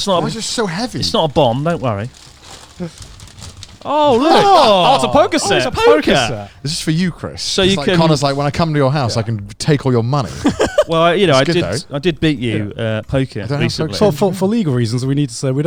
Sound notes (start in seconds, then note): 2.5 wrapping paper rustles; 4.0 laughs; 10.2 laughs